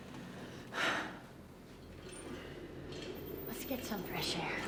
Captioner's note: Rose sighs